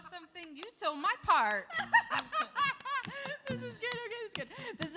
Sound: laughs

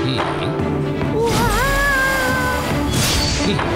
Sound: impressed exclamations

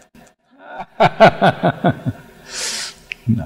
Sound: laughter

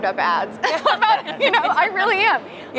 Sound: laughter

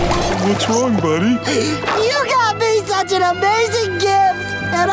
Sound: crying

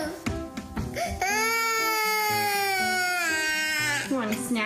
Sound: child cries

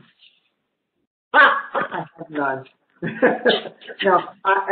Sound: laughs

